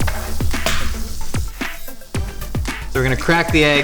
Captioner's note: cracking egg